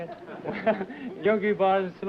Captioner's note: laughter